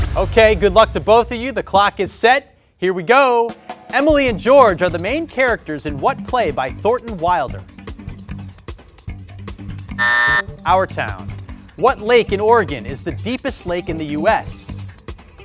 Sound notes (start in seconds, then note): 3.5 upbeat music; 9.9 buzzer beeps